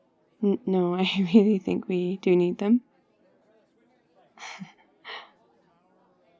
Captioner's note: laughs